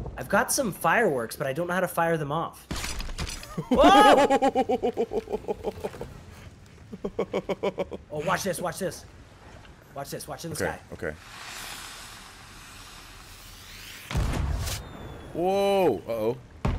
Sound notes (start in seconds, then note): 3.5 laugh